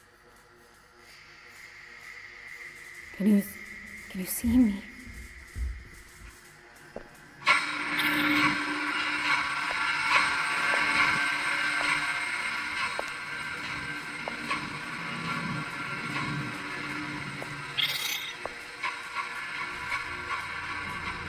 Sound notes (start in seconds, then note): 7.1 footsteps tapping; 7.1 intense music; 17.8 creature chittering